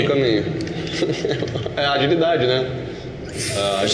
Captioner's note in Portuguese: risos